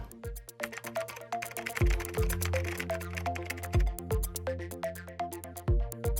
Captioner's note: upbeat music; keyboard clicking